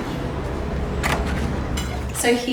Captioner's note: handle clicking